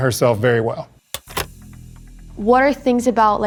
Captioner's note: lights click on